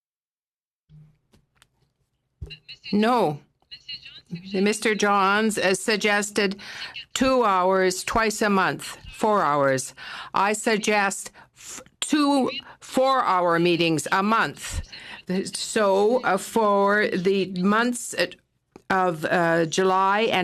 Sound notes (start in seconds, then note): 9.7 speaking FRENCH